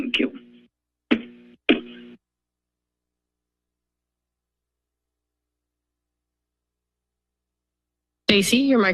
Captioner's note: silence